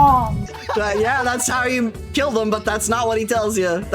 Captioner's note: laughing